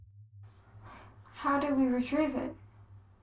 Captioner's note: gasp